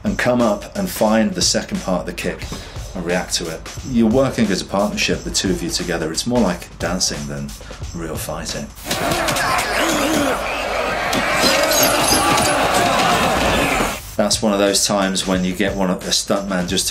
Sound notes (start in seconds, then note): 8.8 crowd yells; 8.8 fighters groan